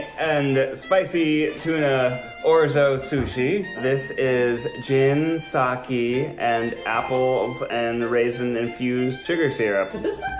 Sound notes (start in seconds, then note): none